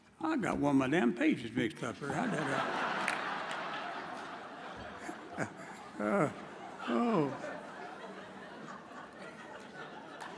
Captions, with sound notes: I got one of my damn pages mixed up here. (audience laughs)